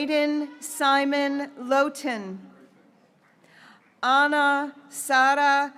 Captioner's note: graduates cheering